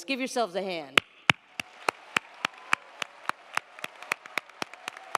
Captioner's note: crowd applauding